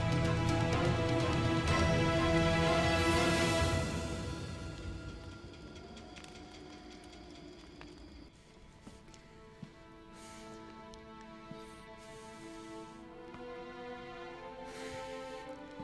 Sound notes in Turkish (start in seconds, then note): 5.7 Ateş çıtırtısı sesleri; 8.9 Ayak sesi